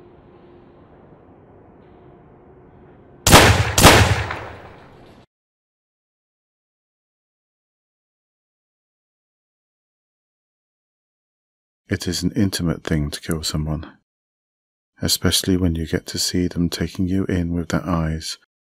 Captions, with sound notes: [GUNSHOTS] It is an intimate thing to kill someone, especially when you get to see them taking you in with their eyes...